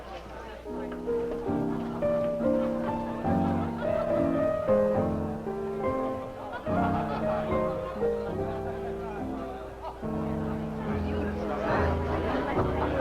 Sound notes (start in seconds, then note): 1.1 guests chatting softly; 1.1 light piano music playing; 9.6 guests chatting